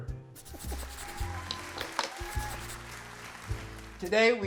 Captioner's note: crowd cheers